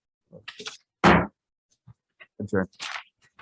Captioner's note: gavel thuds